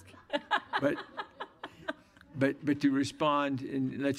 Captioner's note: laughter